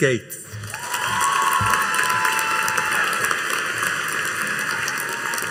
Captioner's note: audience cheering and applauding